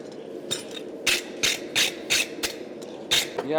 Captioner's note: metal scraping against the brush